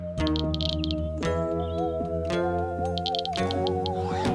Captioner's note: clicking